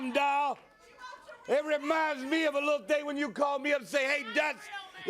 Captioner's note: crowd cheering